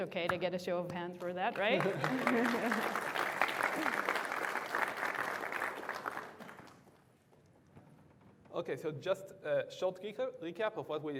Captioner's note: applause